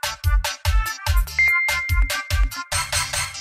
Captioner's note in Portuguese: som de notificação